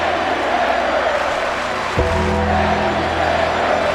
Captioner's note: audience clapping